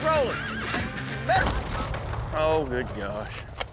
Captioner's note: thunk